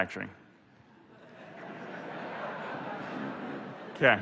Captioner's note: laughter